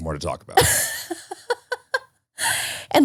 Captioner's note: laughing